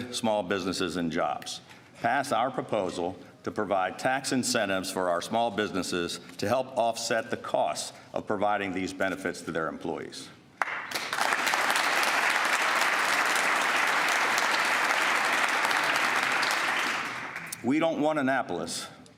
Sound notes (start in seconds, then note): 15.2 applause